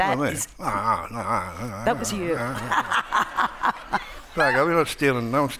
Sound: laughs

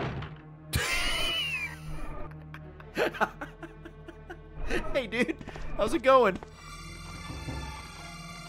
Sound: laughs

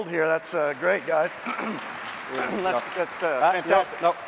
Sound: applause

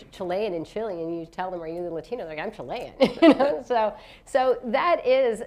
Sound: laughs

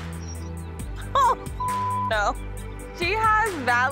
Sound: laughs; beep

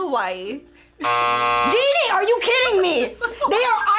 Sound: buzzer rings

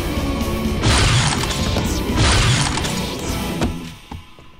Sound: blaster rifle fires; intense music ends

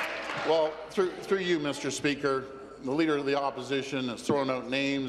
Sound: some Applause

